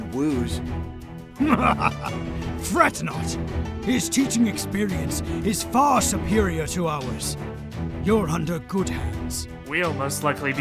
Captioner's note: laugh